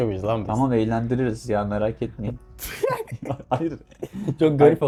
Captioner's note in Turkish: kahkaha